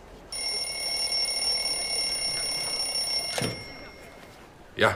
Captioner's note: telephone rings